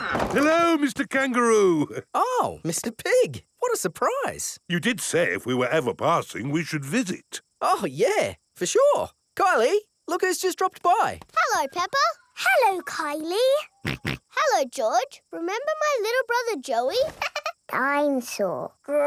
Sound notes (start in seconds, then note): 13.9 snorts; 17.1 chuckles